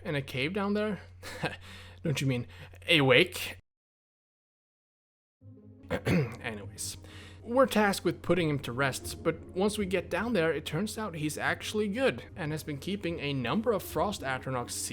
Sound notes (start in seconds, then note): 5.9 ehem